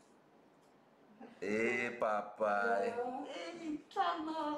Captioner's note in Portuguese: risos